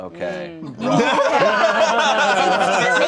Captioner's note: everyone laughing